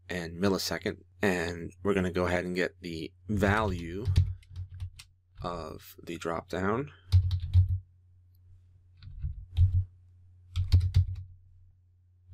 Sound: typing

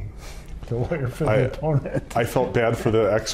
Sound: chuckles

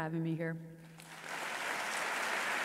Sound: audience applauds

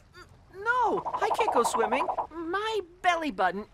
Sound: divebombing

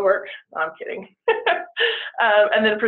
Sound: chuckles

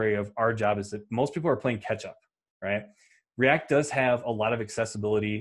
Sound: none

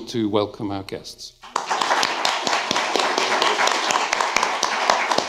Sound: applause

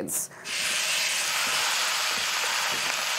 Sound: sizzling

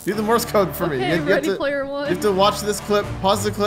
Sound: laughing

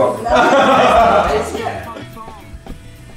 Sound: laughes

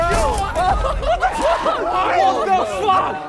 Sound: contestants laughing and yelling

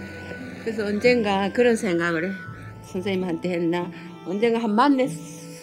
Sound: speaking foreign language

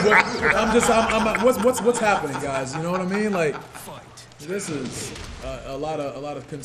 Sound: laugh

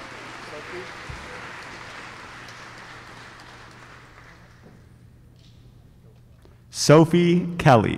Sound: applause

